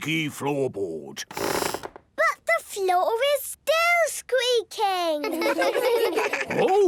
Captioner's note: squeaks